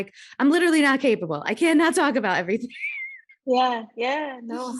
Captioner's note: laughs